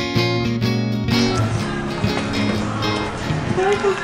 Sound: cheerful acoustic music; people chattering; and vendor speaking Spanish

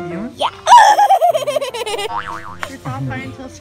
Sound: screaming

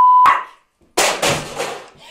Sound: crashclatterbang

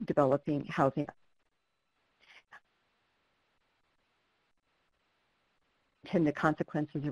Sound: no audio

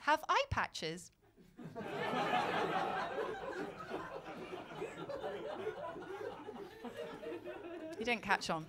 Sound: laughter

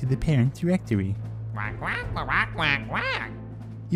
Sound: commanding squawks

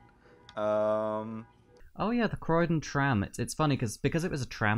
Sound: car alarm continues throughout

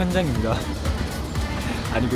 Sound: haha

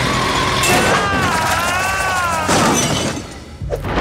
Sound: screaming

